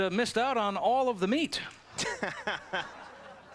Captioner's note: laughs